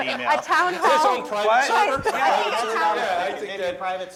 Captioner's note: laughing